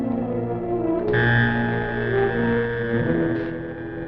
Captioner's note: humming